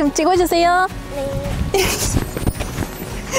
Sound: giggles

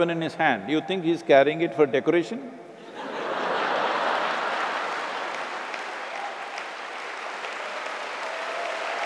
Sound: laughter/Applause

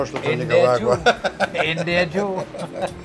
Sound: laughs

